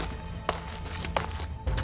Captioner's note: footsteps